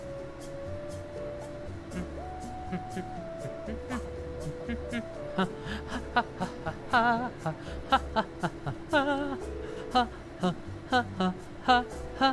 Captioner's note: hums and ha's an improvised melody